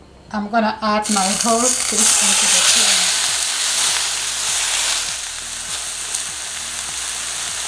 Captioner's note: pan sizzling